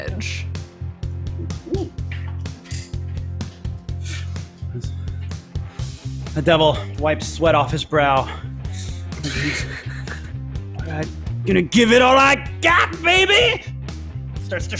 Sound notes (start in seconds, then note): 9.1 laughs